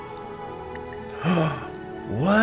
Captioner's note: eerie music; gasps